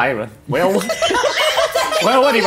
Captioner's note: laughs